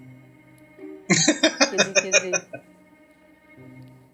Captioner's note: laughing